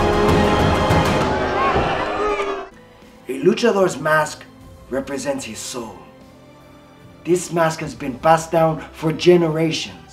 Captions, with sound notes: (audience booing) - The Luchador's mask represents his soul. This mask has been passed down for generations.